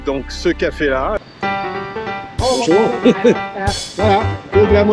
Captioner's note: laughs